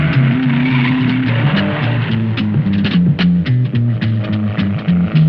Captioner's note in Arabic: صرير الإطارات; موسيقى الجاز المشوقة